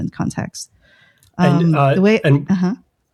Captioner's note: uh